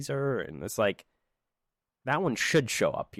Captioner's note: silence